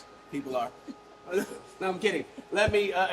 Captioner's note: laughing